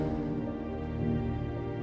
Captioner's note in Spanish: Sonido del motor